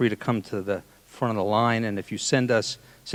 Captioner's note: none